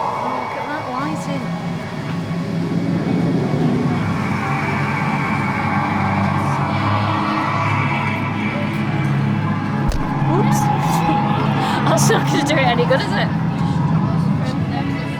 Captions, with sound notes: Look at that lighting [Spooky music] [bang] Oops, that's not going to do it any good, is it? [laughs]